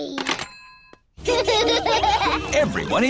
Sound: children laughing

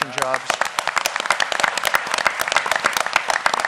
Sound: applause

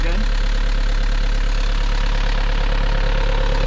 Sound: engine running

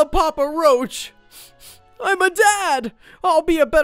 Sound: sniffling

